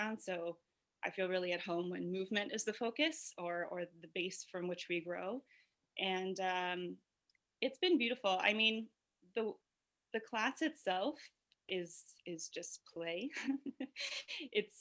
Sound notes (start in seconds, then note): 12.6 laughs